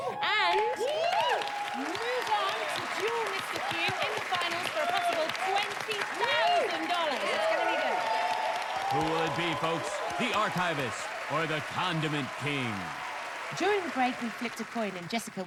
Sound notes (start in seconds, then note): 8.2 cheers and applause